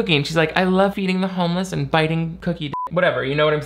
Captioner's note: beep